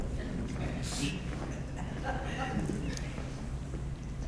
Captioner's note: audience laughs